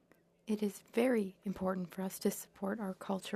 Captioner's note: speaking French